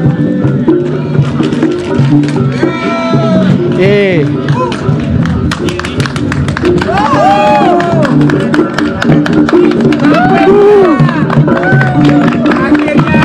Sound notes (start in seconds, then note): 6.5 applause and cheering